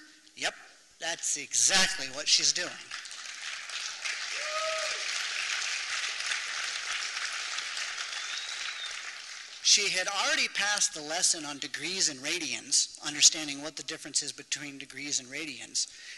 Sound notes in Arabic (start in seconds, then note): 2.6 تصفيق